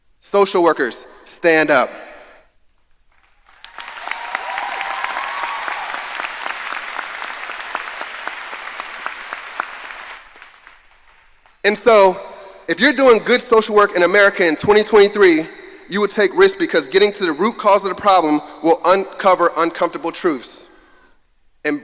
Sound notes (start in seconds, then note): 3.2 audience applauding and cheering